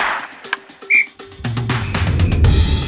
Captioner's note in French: coup de sifflet